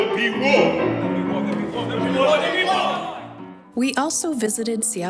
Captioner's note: group cheering